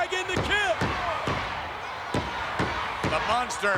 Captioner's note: audience chanting